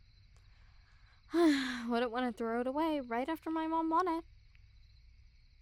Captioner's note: sigh